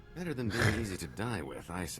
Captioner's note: laughs